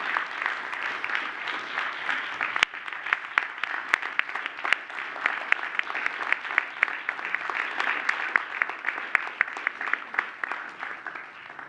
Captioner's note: applause